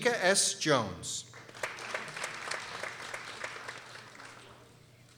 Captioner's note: people applauding